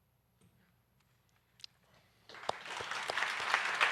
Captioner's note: applause